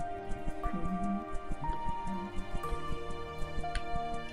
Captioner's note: humming along